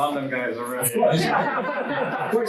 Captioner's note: students laugh